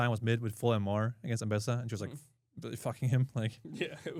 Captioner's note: chuckles; laughs